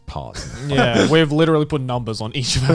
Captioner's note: Garnt laughing